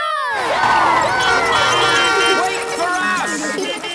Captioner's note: beeping; laughter